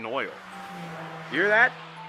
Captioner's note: car passing sound